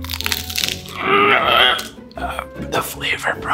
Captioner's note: grunting